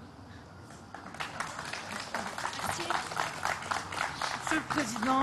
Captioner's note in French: Applaudissements